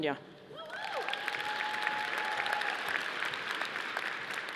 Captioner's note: audience applauding